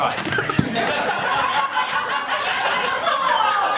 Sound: laughter

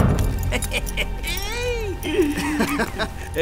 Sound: Piojo laughs; Jesus laughs

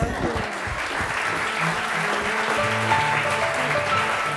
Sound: applause; instrumental music

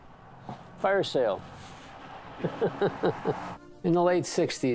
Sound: laughs

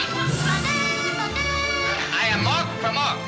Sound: imitating siren

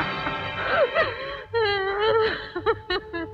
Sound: crying

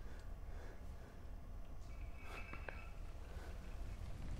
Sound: bells jingle

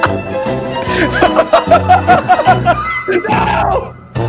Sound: more laughters; bursts out more laughters

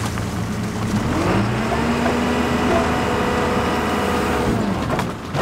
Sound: telehandler engine revving

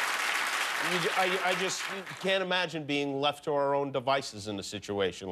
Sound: applause

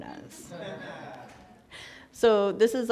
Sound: laughter

